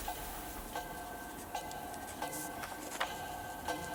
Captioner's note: clock ticking